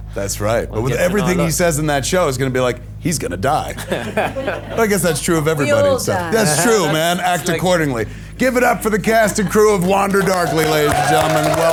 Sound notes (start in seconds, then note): 3.7 audience laughs